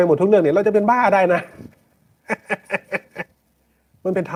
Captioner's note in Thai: เสียงหัวเราะ; เสียงหัวเราะ